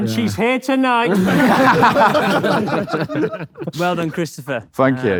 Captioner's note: group laughs